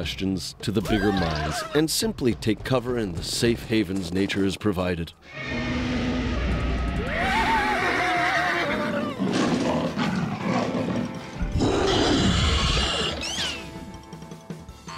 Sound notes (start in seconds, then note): 5.3 screaming; 5.3 creature roaring; 8.4 growling; 11.6 creature roars